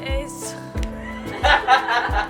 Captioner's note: all laugh